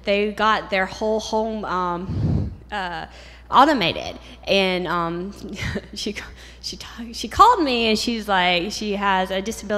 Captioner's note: chuckle